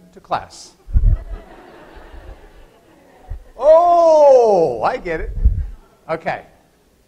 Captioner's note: laughter